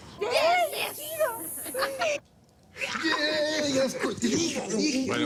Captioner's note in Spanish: Exclamaciones